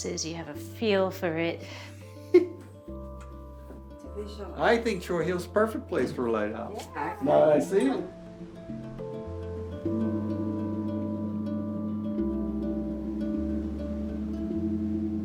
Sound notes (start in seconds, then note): 2.3 man chuckles; 8.9 lighthouse foghorn